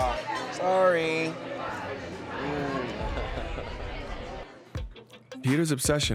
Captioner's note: laughs